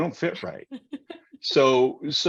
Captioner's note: laughing